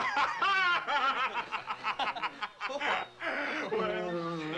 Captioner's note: laughs